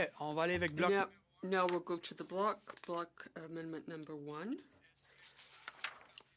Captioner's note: speaking French